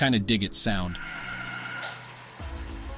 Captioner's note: motor Sound